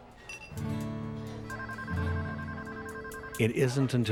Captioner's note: phone ringing